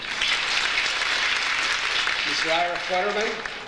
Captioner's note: audience applauds